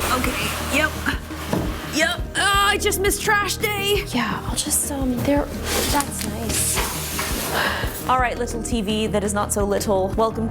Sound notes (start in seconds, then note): 0.0 groaning